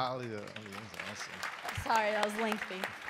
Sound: crowd applauding

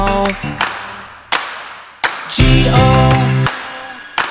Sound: claps three times

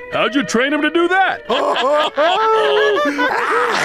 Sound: laughing

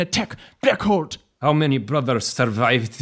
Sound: spit angrily

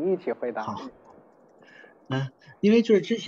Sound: Mandarin

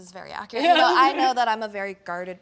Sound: laughs happily

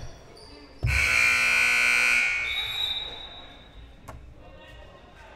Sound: loud buzzer blaring

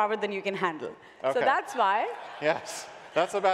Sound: laughter

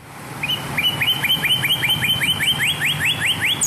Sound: birds chirping

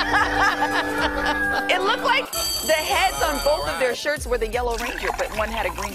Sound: laughter

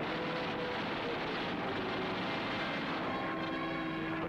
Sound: planes firing

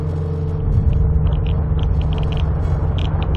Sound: geiger counter sounds

